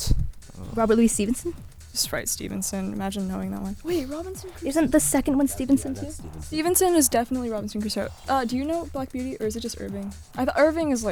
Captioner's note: wispering